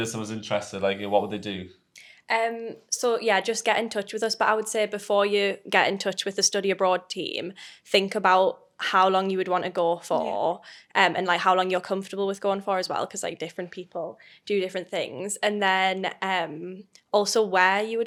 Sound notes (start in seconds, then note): none